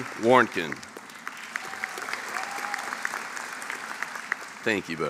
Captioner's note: applause